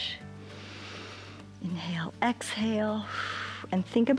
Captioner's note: inhales; exhales